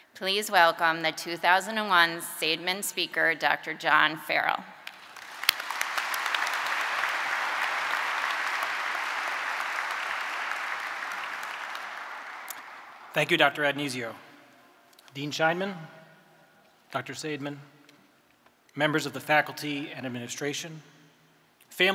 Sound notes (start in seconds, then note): 4.9 audience applauding